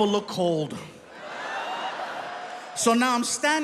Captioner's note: audience laughing